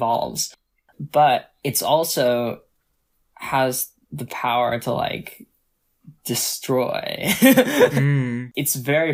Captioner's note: laughs